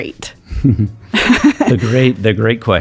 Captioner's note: chuckling